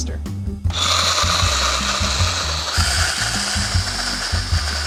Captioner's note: blender whirring